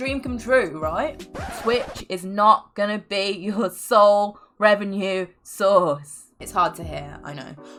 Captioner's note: record Scratch